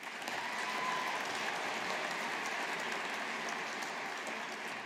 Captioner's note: audience applauding